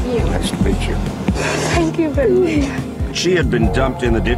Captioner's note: crying